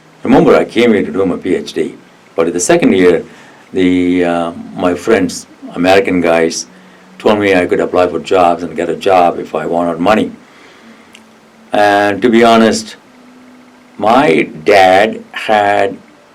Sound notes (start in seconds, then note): none